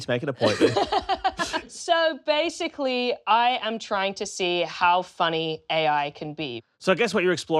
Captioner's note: laughs